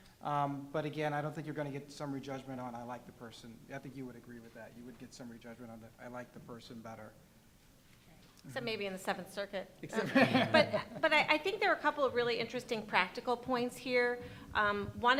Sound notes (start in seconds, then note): 10.0 laughing